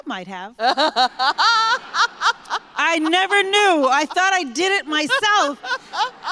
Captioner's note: laughter